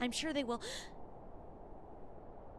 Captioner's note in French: Gasp